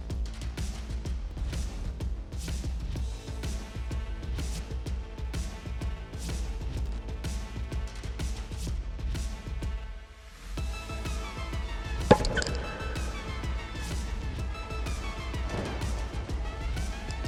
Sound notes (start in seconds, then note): 12.1 ball popping